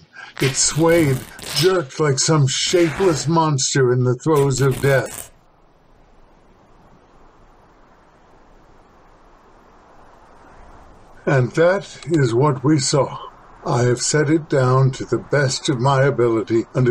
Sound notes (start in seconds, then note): 4.4 sounds of wood splintering; 5.2 chill wind